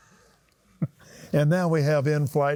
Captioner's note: laughs